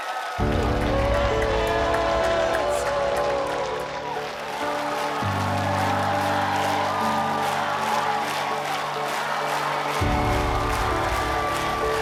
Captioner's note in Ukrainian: оплески